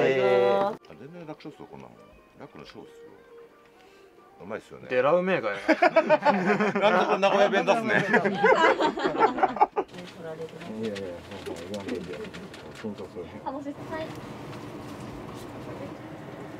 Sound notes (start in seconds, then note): 8.8 laughs